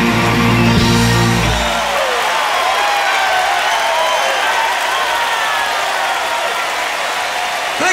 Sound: cheering

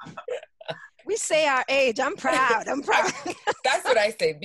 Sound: laughs

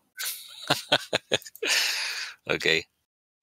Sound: laughter

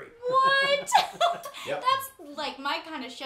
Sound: laughs

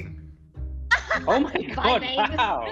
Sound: laughing

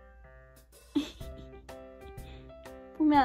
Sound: laugh

